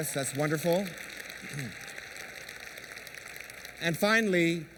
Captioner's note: applause